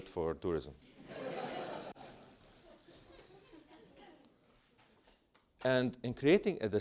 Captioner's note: laugh